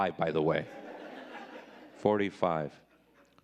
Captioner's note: audience laughing